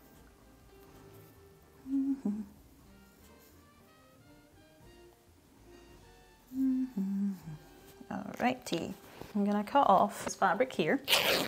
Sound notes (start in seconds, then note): none